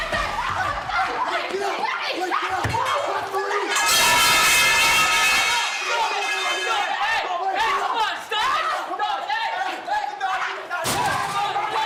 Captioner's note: yelling